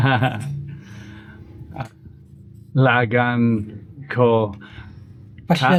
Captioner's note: Speaking Cebuano